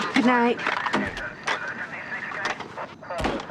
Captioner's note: chattering on police radio